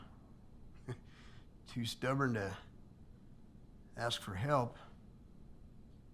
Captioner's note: chuckles